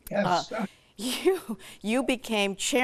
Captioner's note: chuckles